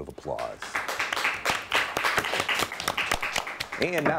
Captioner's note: audience applauds